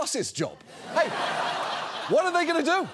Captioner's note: audience laughs